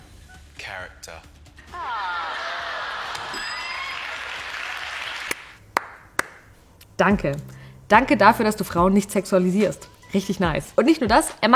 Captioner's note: applause